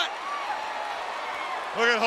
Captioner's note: audience cheering